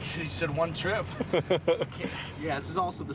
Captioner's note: laughter